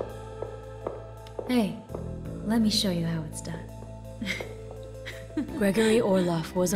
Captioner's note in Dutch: zwoele muziek; gegiechel